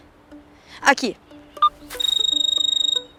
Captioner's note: mobile phone ringing